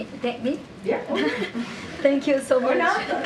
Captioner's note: laughter